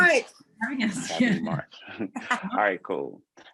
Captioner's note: laughter